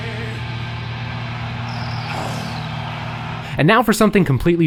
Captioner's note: crowd cheering